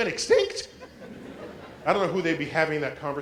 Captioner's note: laugh